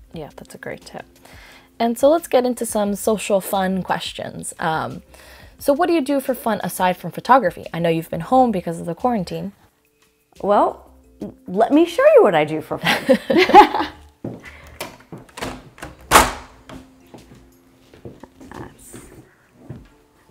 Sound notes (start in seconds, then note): 12.8 both laugh; 14.2 footsteps, door opens; 18.2 mumbling under her breath